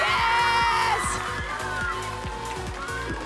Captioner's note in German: Jubel